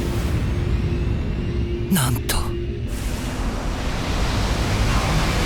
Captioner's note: none